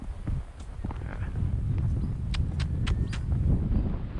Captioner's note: clicks tongue